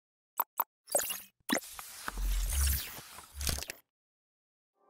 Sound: beeping electronics

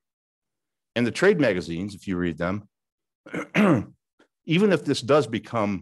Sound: clears throat

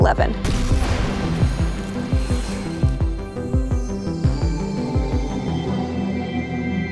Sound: dramatic music; logo whooshes

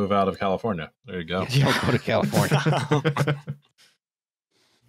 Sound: laughter

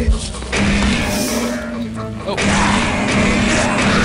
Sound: gunshots and monster roars

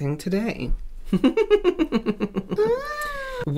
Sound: suspicious Laughter

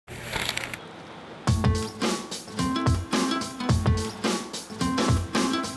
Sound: crunching; upbeat music

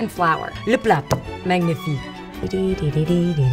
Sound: speaks in foreign language

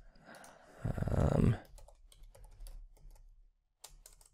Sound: typing on board

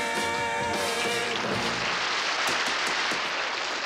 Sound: audience applauding

